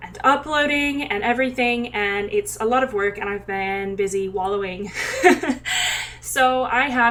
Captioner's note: laugh